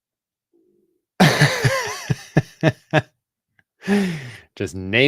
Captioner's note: laughter